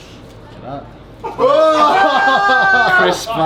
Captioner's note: everyone cheers